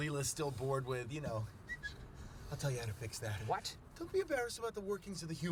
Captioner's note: whistles